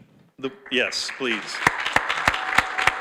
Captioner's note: audience applauds